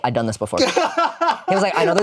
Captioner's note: laughs